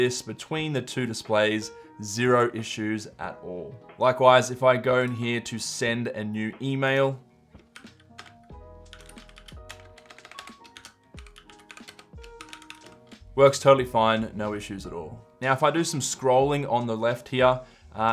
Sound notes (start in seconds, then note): 8.8 keyboard clicking